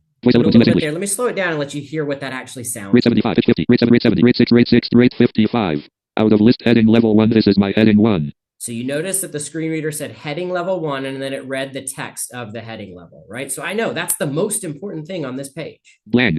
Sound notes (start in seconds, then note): 0.1 screen reader narrating extremely rapidly; 2.7 screen reader reading out rate numbers rapidly